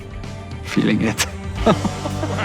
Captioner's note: laughs